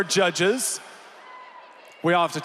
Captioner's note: applause